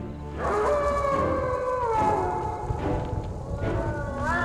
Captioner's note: wolf howling